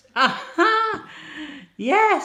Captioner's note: laughs